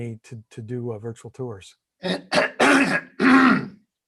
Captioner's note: clearing throat